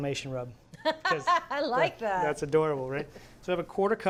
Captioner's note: laughs